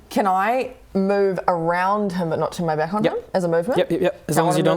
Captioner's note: none